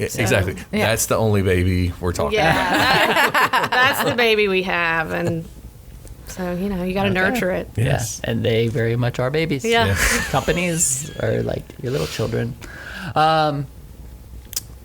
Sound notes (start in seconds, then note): 2.4 laughs